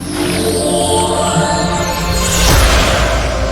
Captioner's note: logo whooshing